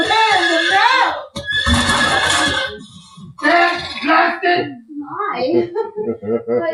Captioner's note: crash, bang